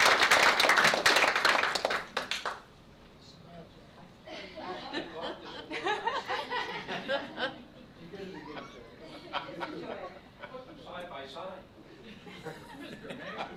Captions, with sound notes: (laughter) - Side by side.